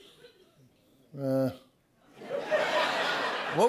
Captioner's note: laughter